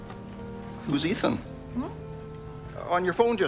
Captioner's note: Cassie hums